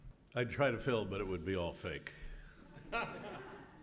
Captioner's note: laugh